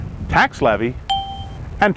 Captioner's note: ding